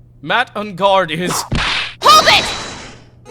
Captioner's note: whip crack!